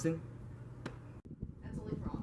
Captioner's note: hand falls to side with slap